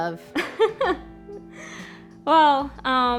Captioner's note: woman laughing